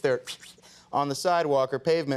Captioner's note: imitates swishing